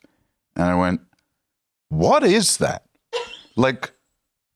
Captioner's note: laughs